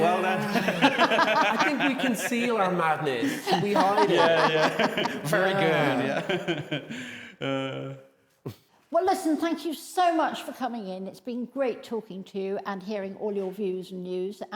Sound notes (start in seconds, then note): 3.2 both laughing